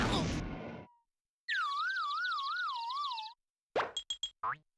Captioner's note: birds chirping